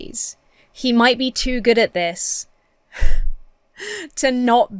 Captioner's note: laughs